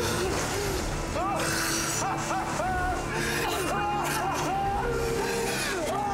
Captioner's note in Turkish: Gülme sesi